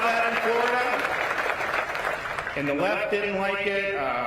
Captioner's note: applause